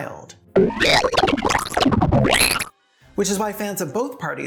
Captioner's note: wet eldritch howl